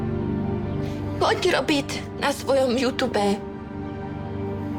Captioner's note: Speaks Czech